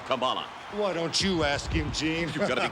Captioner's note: laughs